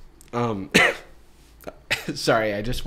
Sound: coughs

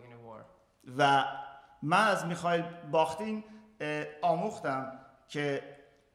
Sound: speaking in farsi

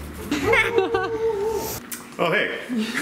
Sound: laughing; dogs barking

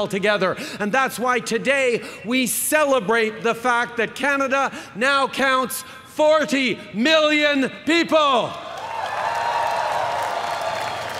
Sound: cheering

